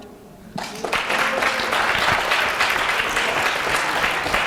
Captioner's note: applause